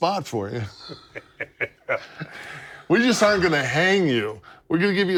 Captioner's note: laugh